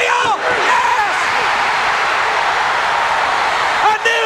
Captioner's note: crowd cheering